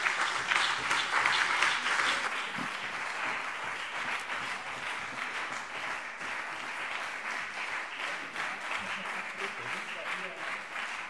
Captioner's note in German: Beifall BÜNDNIS 90/DIE GRÜNEN und CDU